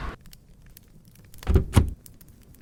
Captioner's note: door opens